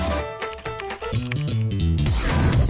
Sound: typing

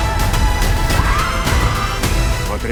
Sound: screaming

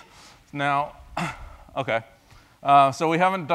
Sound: cough

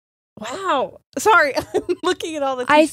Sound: laughs

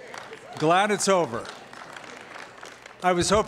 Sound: applause

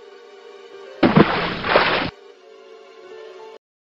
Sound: splashing sound

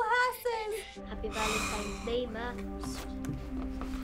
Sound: sigh heavily

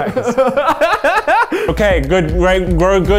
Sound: laughing

